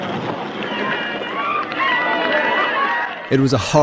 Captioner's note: people screaming